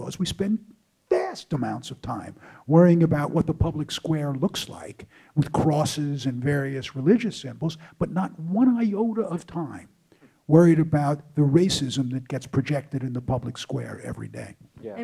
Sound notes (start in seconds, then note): none